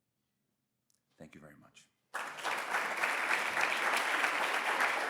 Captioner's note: audience applauds